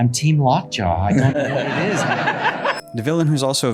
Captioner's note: laughing